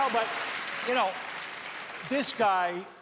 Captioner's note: cheers and applause